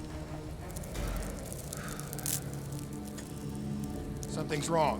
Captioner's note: sighs